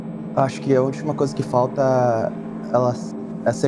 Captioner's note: none